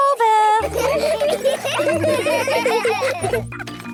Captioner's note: laughter; grunting